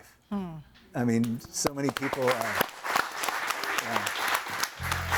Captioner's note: audience applauds